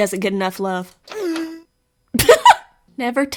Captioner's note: walrus sound goes by and laughs